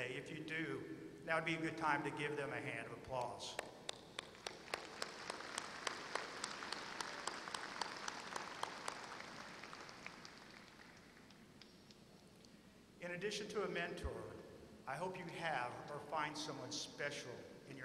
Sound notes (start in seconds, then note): 3.8 applause